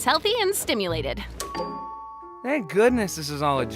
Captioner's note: doorbell rings